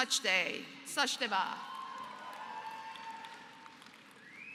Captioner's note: applause